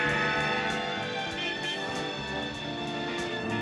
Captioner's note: bell tolls; vehicle honking